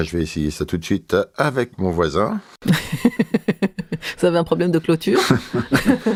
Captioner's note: laughs